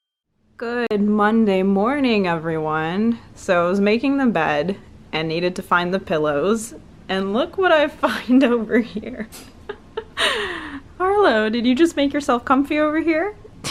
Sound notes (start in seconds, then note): 9.6 laughs